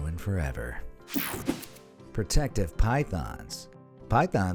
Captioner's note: air whooshing